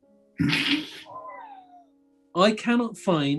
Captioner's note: sniggering